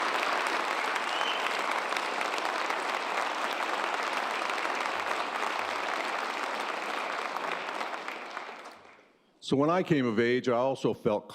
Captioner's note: applause